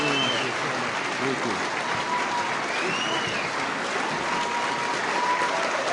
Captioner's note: applause